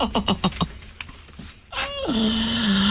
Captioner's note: laughter